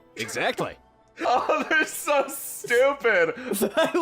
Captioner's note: laughing